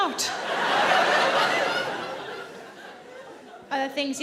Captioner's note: audience laughing